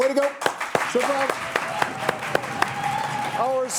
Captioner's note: audience applauding